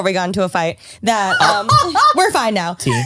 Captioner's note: laughs